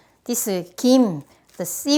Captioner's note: none